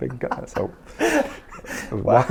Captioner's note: interviewer laughs